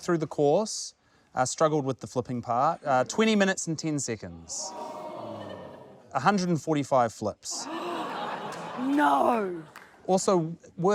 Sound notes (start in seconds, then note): 4.6 audience gasps; 8.3 gasps